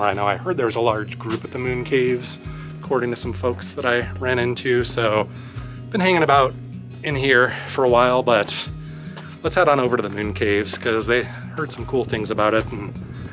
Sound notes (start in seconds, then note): none